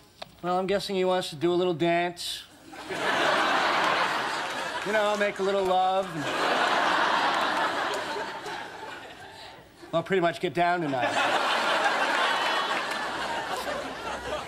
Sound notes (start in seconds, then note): 2.7 audience laughing